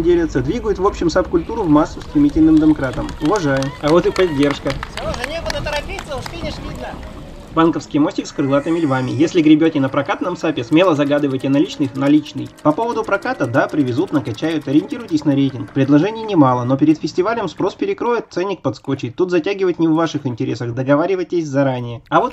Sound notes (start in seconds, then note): 4.3 shouts of approval from the bridge